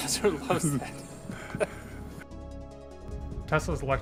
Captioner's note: laughing